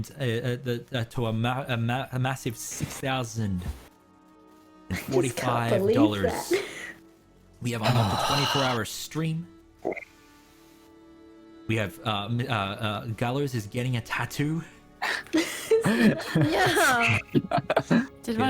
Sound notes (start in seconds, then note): 9.1 exhale; 9.7 satisfied grunt; 15.0 tattoo giggles